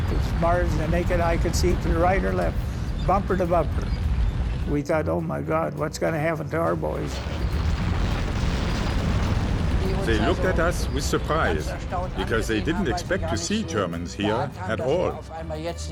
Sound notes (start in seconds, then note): 7.2 tank engine whirring; 15.6 speaking in foreign language